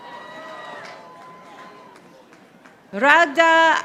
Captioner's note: audience applauding